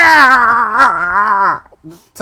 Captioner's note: screaming